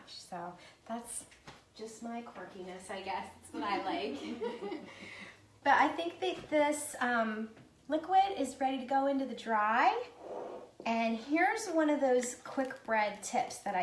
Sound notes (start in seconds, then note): 3.8 laughing